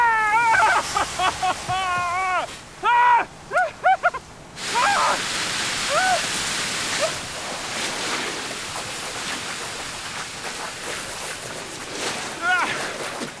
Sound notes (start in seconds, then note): 0.0 crying; 6.1 water splashing